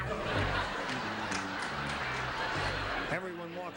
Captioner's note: audience laughs